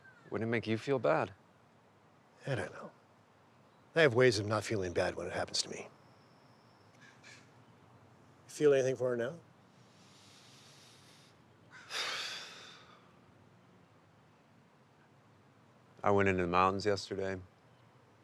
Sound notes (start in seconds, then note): 11.8 Jimmy breathes deeply